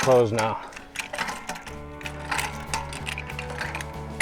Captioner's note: wire moving